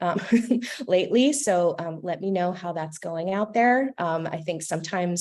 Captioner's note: laughter